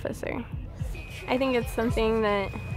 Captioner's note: alarm ringing